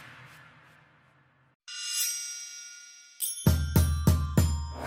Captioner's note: dramatic swish; high chimes